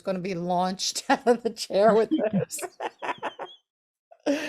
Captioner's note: laughs